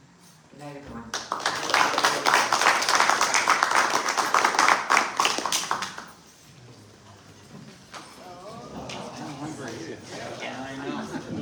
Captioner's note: applause